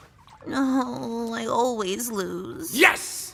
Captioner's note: groans